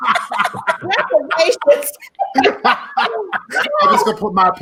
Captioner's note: laughing